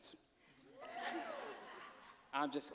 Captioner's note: cheers, laughter